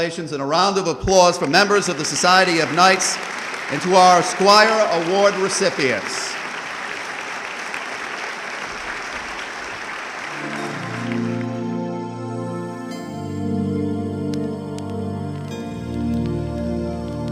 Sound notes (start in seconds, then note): 6.6 audience clapping; 10.2 soothing music